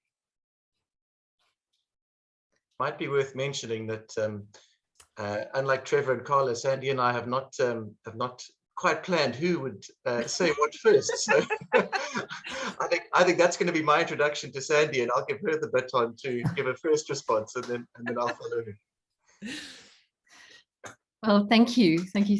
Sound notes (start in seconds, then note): 10.1 laughter